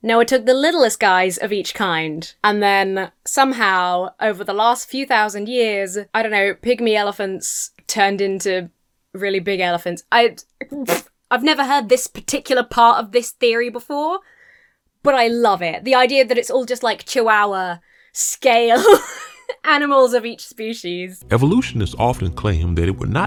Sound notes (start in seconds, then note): 10.4 splutters; 18.7 laughs